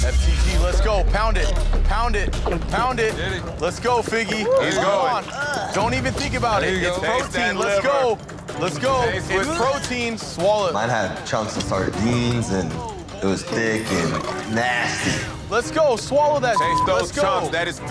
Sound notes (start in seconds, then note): 12.1 gagging; 13.8 belching